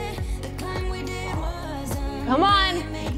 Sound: exhales

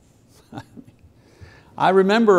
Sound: chuckles

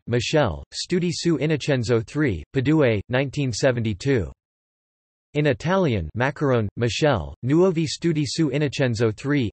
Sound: in Italian; in Italian

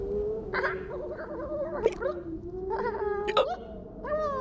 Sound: hiccuping

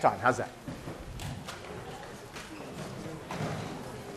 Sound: classroom murmur

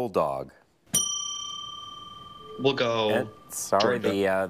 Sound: bell dings

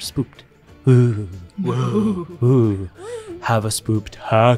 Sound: all imitating boo noises

